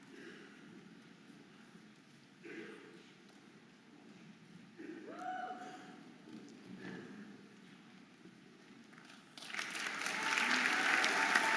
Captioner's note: audience applauding and cheering